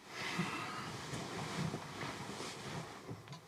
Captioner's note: Isaac sighs